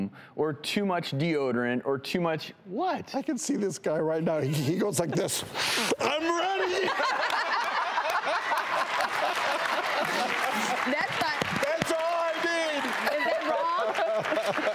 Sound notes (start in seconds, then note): 5.5 sniffs; 6.3 everyone laughs; 9.5 audience applause